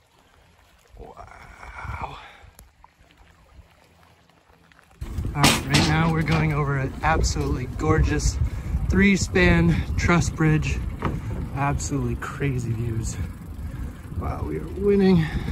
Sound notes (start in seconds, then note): 0.0 bubbling water